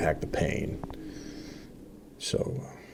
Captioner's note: deep breath